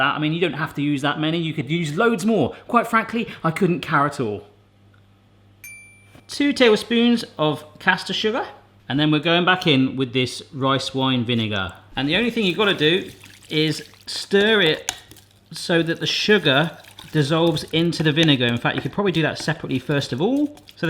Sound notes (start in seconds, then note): 5.6 ding